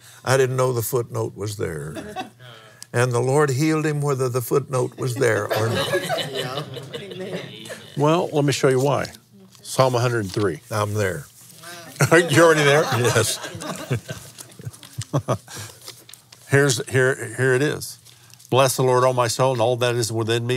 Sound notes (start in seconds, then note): 7.9 laughs